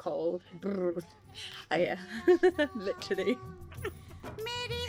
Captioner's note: laughs